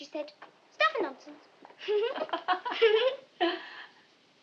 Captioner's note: both laugh